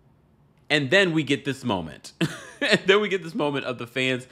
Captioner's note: chuckles